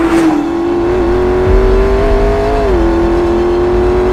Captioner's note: dramatic music continues; engine revving